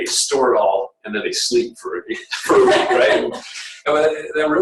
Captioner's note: laughter